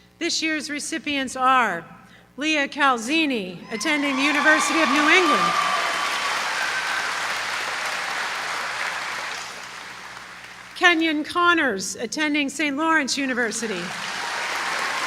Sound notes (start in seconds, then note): 8.5 applause; 13.6 applause